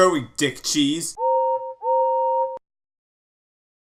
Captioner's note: whistles